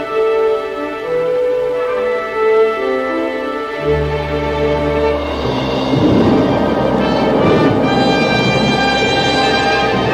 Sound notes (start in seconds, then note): 5.3 thunder booming